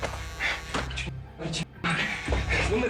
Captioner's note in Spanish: Suena el celular